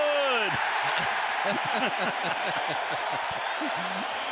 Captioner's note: crowd cheering